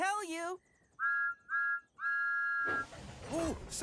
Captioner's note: toot-Toot-Toot!